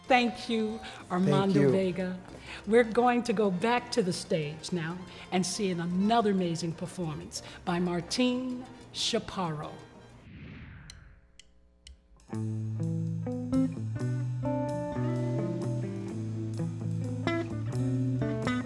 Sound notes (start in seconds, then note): 10.2 air whooshing; 11.7 drumsticks clicking